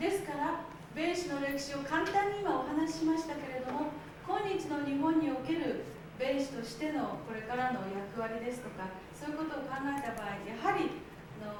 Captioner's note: speaking Japanes